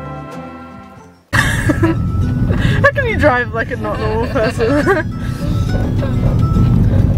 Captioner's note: calm folk music playing; laughting; more laughing